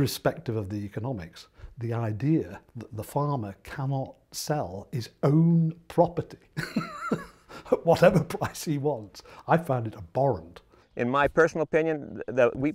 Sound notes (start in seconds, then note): 6.5 laugh